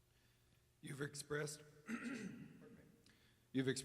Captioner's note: clears throat